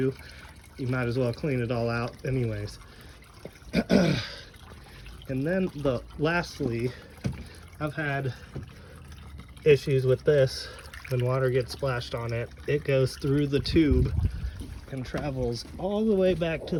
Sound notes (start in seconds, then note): 3.7 clears throat